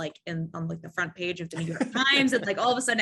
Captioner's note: laughing